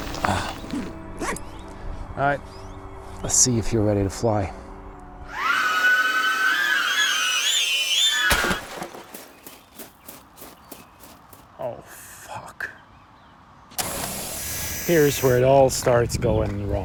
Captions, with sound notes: “Alright, let’s see if you’re ready to fly." (drone whirring then crashing) (running footsteps) "Oh, fuck.”